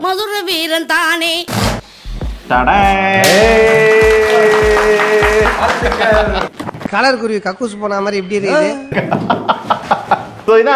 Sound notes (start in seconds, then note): 3.2 cheering; 8.9 laughter